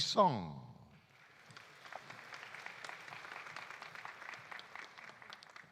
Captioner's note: audience applauding